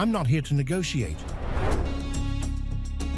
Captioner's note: air swooshing; tense music